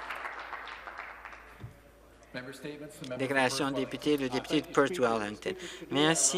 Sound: some Applause

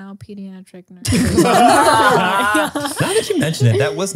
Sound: all laughing

